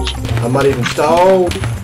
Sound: shots fired

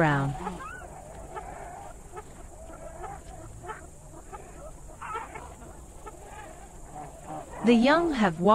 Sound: jungle sounds

